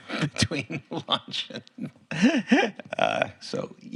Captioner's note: Tony laughs